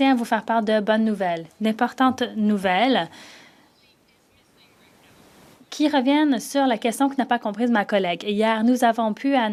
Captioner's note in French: voix de l'interprète